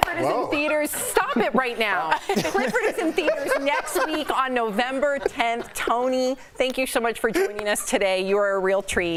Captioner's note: laughter